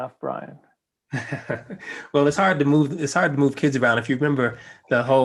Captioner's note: laugh